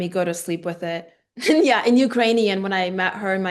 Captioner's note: laughing